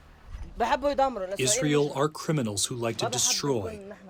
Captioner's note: through translator